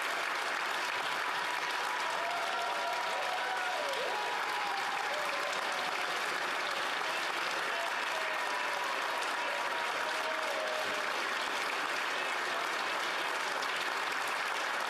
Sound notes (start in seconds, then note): 0.2 applause; 3.6 cheering/Applause